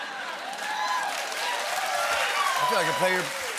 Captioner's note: cheering and applause